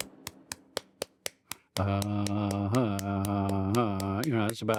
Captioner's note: chanting